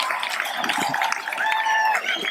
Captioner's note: applause